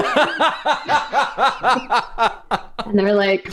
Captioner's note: laughter